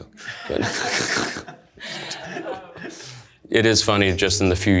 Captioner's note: participants laugh